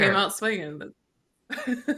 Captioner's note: chuckles